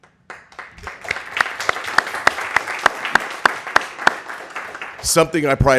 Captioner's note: applause